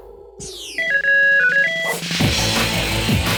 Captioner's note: beeping; theme music